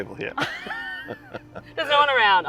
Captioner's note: both chuckle